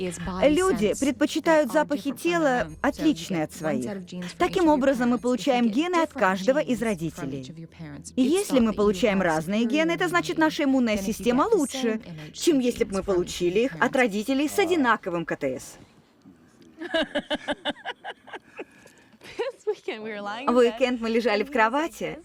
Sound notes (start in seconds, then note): 16.7 both laugh; 16.9 sniffs